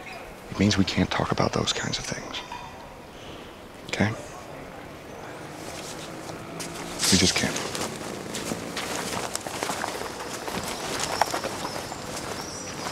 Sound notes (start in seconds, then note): 9.7 foreign language